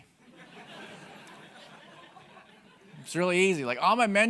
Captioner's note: audience laughing